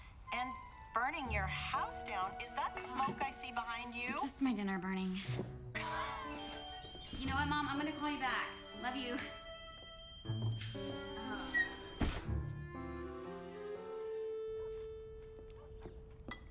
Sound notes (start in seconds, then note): 4.9 laughs; 9.0 smoke alarm beeps